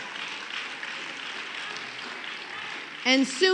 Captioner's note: applause